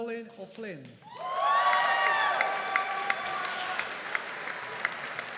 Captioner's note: audience applauding